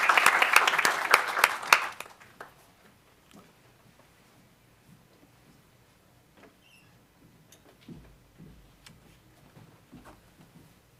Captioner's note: applause